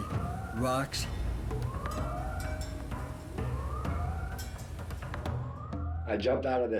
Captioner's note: repetitive siren sounds